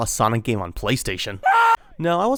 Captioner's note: Ark Scream